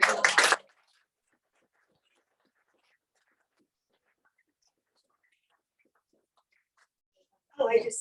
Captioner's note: clapping